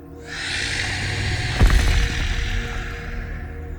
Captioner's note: snake screeches